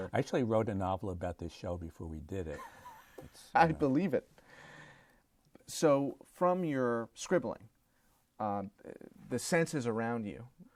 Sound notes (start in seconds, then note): 2.5 laughter